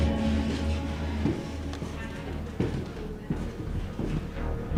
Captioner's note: footsteps thudding